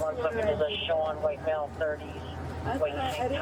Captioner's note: radio chatter